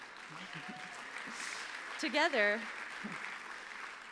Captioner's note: applause